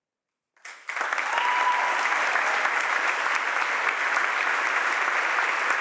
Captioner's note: audience applauds and cheers